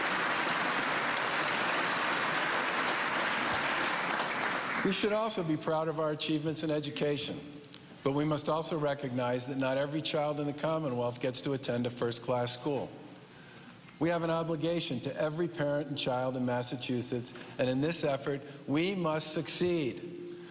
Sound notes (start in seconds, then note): 5.4 cheers and applause